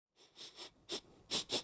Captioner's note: A human breathing